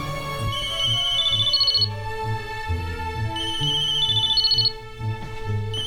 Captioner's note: phone ringing